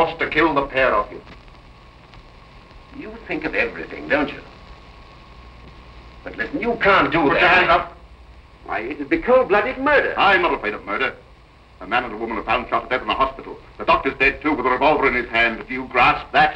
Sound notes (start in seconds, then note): none